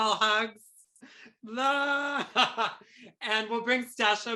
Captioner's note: chuckles